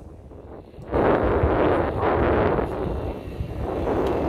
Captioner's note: sound of wind